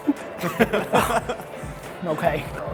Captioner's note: laughing